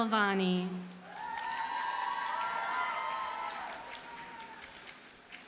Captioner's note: audience cheers and applauds